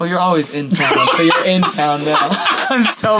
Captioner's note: laughing